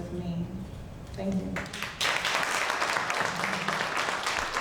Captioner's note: audience clapping